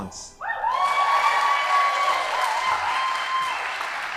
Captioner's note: audience applauding